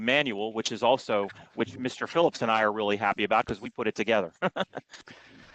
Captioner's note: laughter